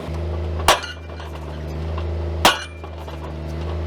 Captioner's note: metal dings